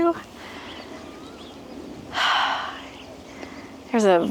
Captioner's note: sigh